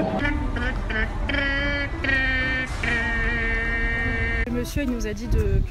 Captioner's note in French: bruit de bouche